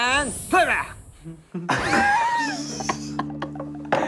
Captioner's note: laughing